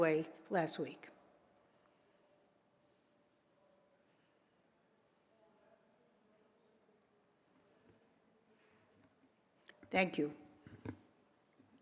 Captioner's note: moment of silence